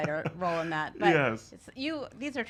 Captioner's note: laughing